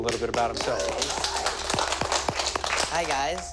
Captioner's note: applause